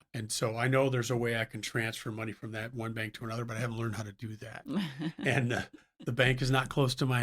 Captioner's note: laughs